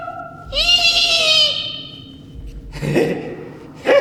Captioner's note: goofy laughing